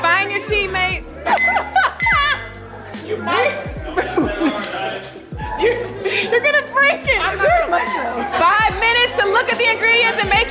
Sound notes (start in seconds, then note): 1.2 laughs; 1.3 glass clinking; 3.9 laughs